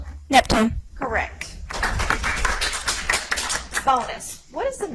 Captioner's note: audience applauds